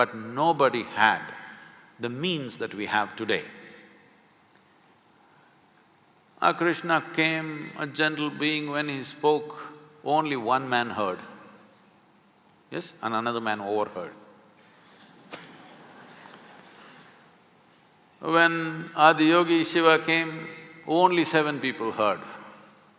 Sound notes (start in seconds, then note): 15.2 few laugh